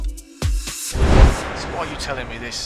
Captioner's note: wind whooshing